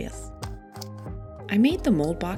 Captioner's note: tape crinkles